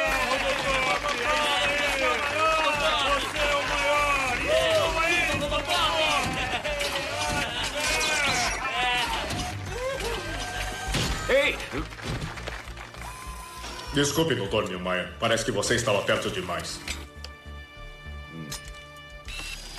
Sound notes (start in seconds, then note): 0.0 cheering